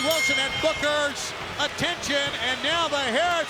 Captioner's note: bell ringing; crowd booing